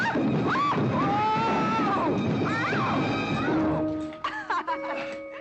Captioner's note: tumbling down stairs; giggling